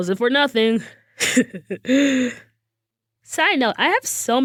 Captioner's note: laughs